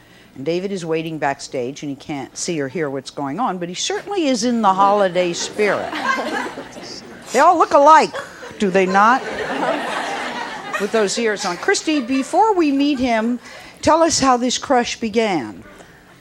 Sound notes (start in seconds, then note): 9.3 audience laughs